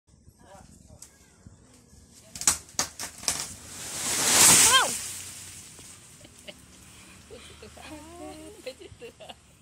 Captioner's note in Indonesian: sound of a fallen tree